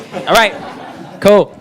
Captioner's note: students laughing